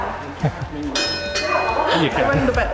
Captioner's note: bell ringing